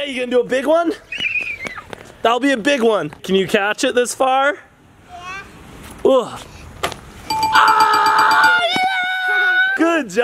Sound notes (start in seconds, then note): 1.2 screaming; 7.3 dinging; 7.5 cheering